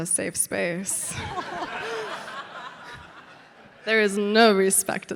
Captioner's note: audience laughing